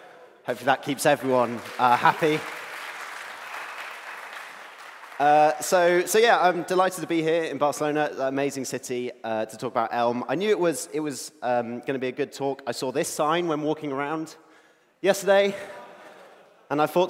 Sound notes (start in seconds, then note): 3.1 applause